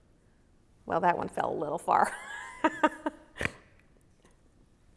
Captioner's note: laughs